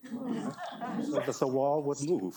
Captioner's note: audience laughing